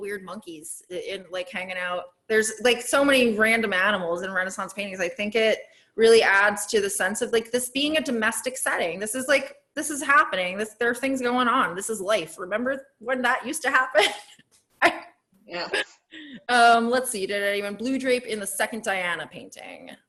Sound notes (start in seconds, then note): 15.5 laughs